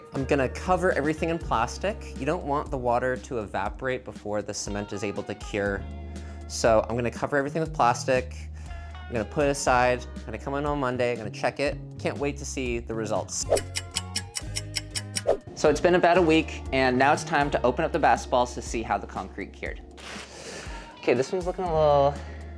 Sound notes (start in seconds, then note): 13.4 upbeat music continues; 13.6 clock ticks